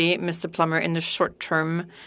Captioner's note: speaking French